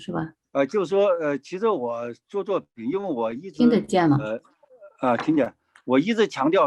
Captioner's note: speaking in foreign language